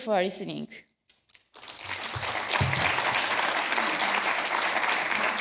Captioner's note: applause